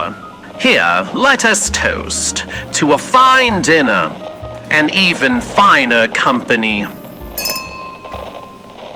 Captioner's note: crystal clink fx